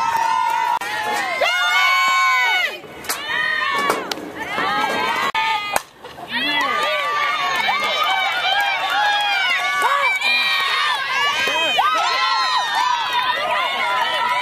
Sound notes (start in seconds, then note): 4.7 cheers; 10.3 cheers